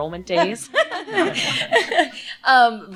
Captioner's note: laughter